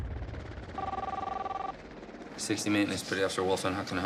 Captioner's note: ringing